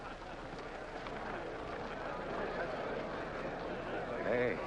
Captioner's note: people chattering